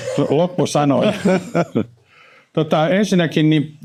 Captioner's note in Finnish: naurua